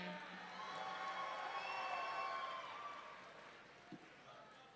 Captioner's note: audience cheering